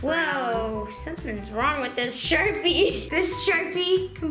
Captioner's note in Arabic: يضحك